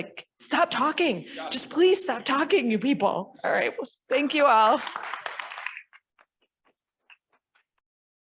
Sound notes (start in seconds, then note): 4.6 audience clapping